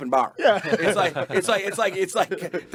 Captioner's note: group laughing